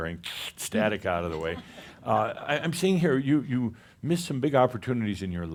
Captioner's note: a few chuckles